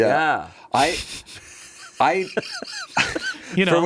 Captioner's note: everyone laughs